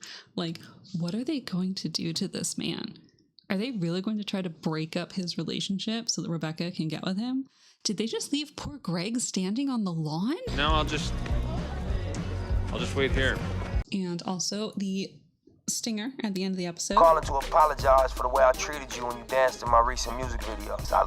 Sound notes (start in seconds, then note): 16.9 hip-hop music playing; 17.8 voice on phone